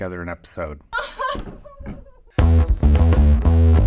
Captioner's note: crying; upbeat music